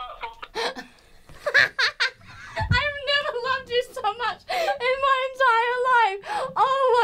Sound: both laughing

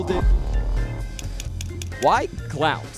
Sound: clicking

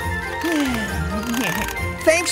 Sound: cranking

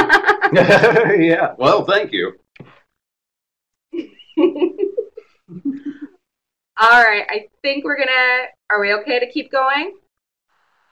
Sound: laughs

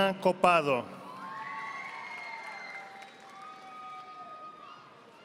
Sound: audience applauding

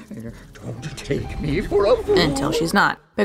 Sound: sputtering

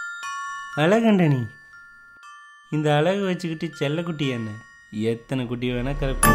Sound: talking to self

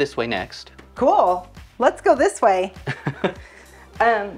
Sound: laughs

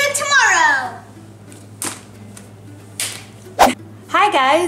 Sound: hands slapping

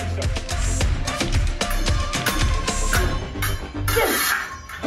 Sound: swords crash over charged music; scraping metal

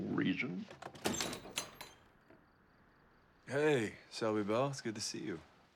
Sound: door opens

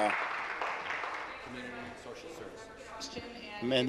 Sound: applause

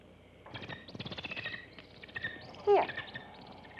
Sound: bird chirping

